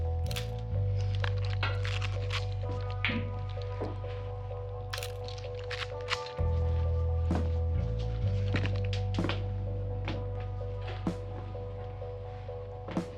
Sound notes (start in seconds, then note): 0.2 camera shutter clicking; 2.7 gentle upbeat music; 5.0 camera shutter clicking; 6.6 gentle upbeat music